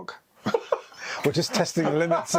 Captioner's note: guy laughs